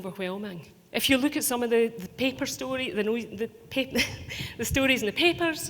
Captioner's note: laughing